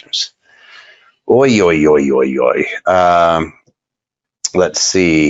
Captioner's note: exclaims in disbelief